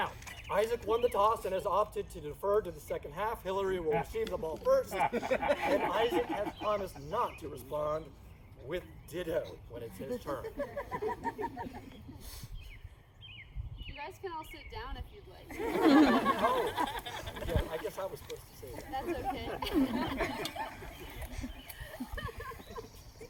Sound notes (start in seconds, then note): 15.5 laughter; 21.6 more laughing